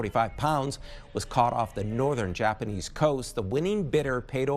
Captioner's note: applause